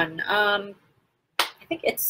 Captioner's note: slap